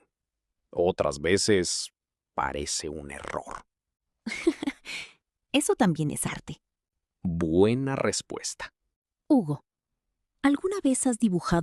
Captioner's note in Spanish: risas